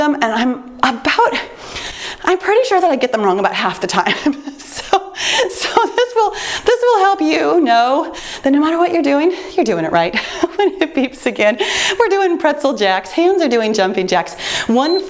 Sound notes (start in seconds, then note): 4.8 chuckles; 14.8 timer beeps